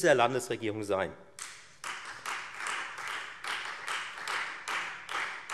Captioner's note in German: Beifall Freie Demokraten